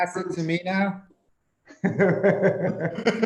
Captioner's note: laughs